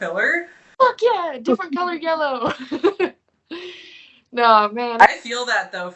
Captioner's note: laughing